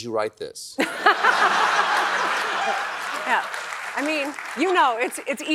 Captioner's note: laughs